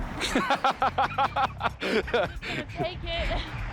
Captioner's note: laughing